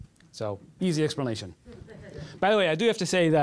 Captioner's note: laughter